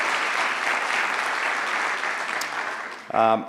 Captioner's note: applause